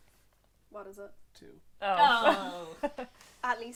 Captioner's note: sympathy noises